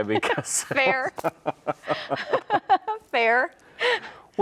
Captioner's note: chuckle